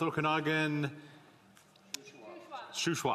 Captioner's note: speaking French